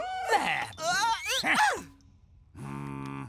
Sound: grunting

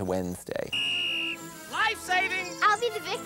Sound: sound of whistle

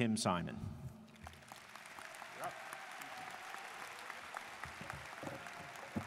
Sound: students cheering and applauding

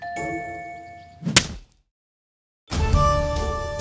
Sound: smacking noise

